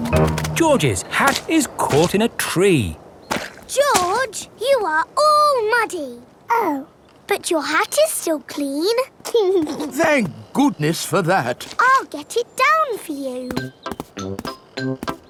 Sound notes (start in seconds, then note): 9.7 giggles